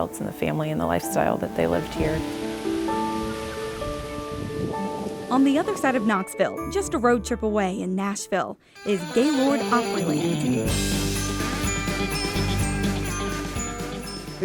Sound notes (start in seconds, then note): 2.3 wind blowing; 2.7 birds chirping